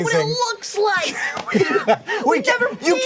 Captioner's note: HANK wheeze-laughs